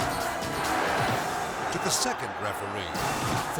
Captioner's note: dramatic music; crowd cheering; crowd yelling